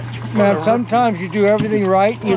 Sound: fish splashing

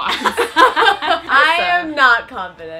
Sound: all laughing

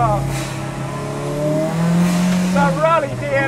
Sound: car engine roars

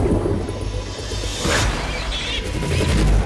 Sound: pig squeals

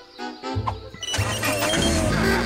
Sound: laughing

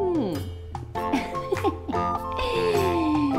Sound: laughs

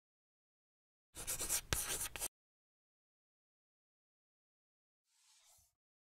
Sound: writing on a chalkboard

